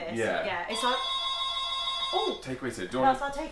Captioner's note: doorbell ringing